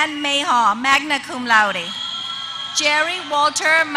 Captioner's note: applause